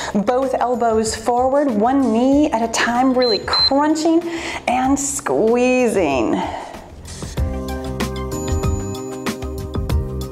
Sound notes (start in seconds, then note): 3.1 timer beeps; 7.4 cheerful music